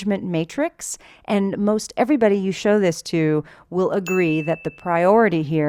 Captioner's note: bell sound